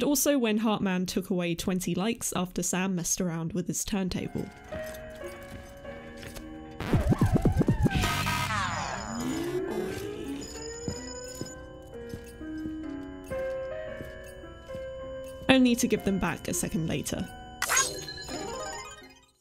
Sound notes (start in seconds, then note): 6.8 record scratches; 7.6 error sound; 17.3 'Like' sound